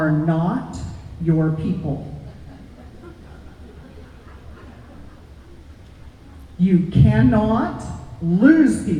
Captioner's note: nervous laughter